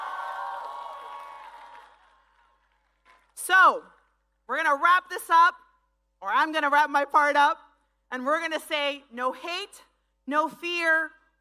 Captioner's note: speaking spanish